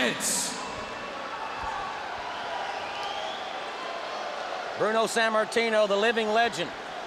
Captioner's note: crowd chatter